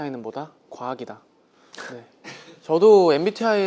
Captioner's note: haha